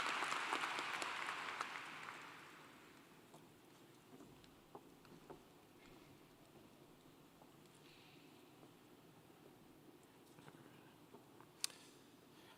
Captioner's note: applause